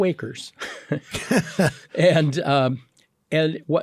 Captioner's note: both laughing